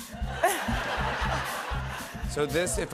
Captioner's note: laughter